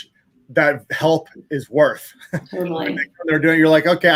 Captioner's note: chuckles